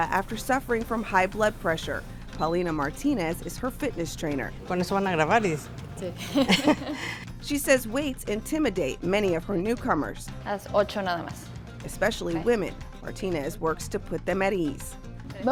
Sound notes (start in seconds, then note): 4.7 speaking in foreign language; 6.0 laughing; 10.6 speaking in foreign language